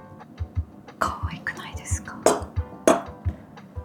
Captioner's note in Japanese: なぜか小声